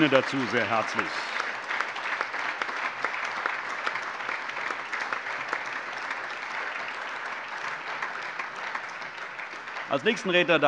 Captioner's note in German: Allgemeiner Beifall